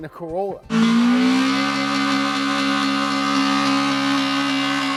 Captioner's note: engine revving